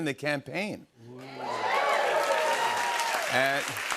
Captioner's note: cheers and applause